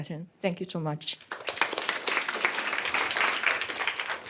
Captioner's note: applause